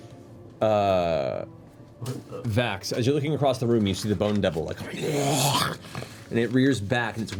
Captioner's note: hisses